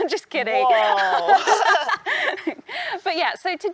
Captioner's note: both laugh